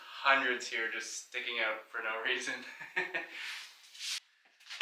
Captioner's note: laughs